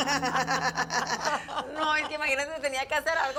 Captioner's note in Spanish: Risas